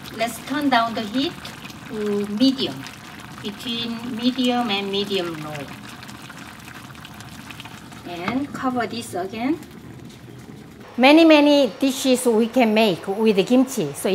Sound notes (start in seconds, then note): 8.0 gently simmers